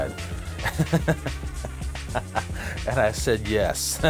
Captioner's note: laughter